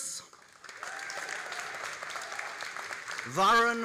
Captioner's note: all applauding and cheering